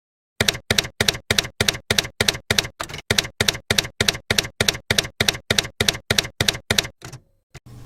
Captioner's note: typewriter keys clacking